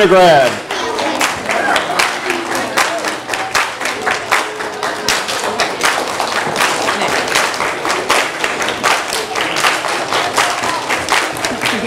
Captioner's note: audience applause